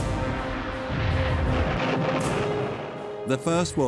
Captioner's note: cannons firing